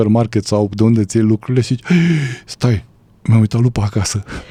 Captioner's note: gasp